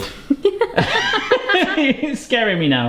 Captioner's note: both laughing